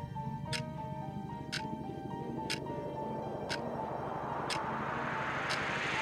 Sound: swooshing sound getting increasingly louder

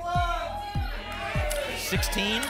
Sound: audience shouting numbers

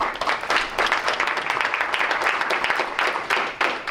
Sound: crowd applauds

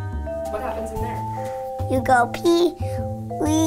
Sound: none

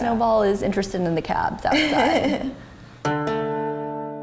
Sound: laughing; mellow music

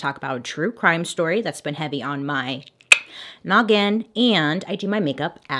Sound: clicks tongue

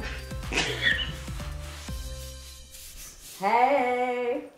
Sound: laughing

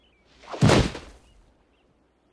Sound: thud

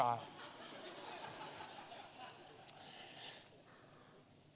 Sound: congregation laughing

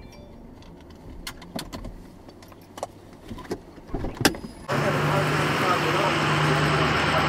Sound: car stops, seat belt unbuckles, door opens

